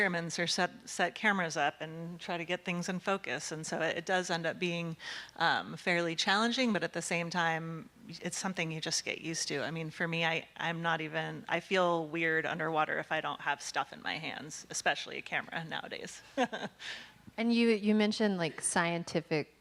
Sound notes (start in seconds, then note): 15.7 laughing